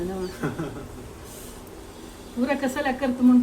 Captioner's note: laughs